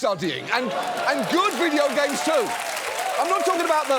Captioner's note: studio audience cheers